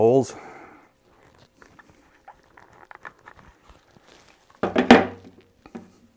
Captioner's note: scraping